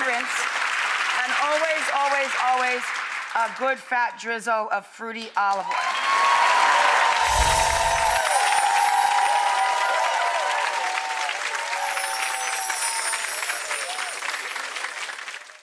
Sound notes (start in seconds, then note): 0.1 audience applause; 5.9 audience applause; 7.2 chimes; 11.6 chimes